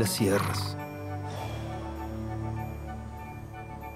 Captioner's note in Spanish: Suspiro